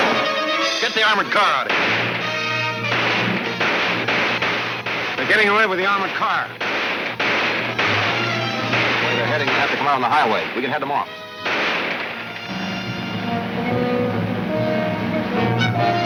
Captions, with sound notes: - Get the armored car outta here. (guns firing) - They're getting away with the armored car. (guns firing) - The way they're heading they have to go out on the highway. We can head them off. (dramatic orchestra music)